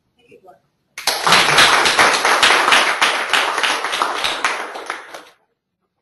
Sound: audience clapping

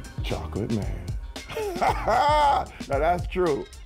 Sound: laughs

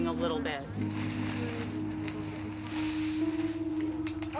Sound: bags rustling

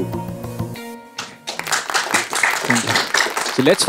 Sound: all applauding

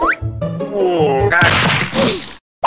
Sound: crash

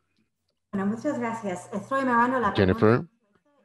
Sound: speaks in foreign language

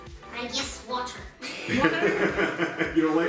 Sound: laughing

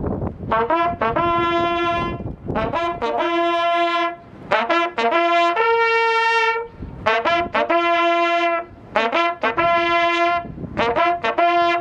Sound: wind noise

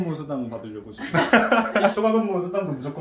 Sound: haha

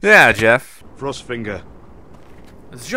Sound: voiceover

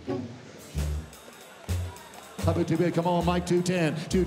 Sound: auctioneer calling

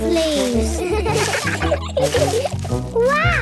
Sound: laughter

